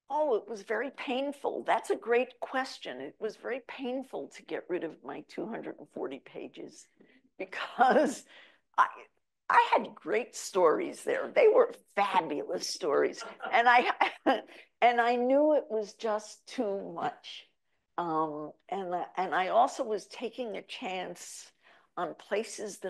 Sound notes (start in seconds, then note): 13.2 chuckles; 13.2 audience member laughs